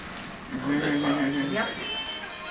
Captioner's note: laughing